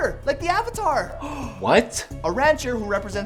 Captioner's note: gasp